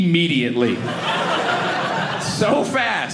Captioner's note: audience laughing